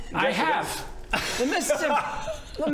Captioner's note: incredulous laugh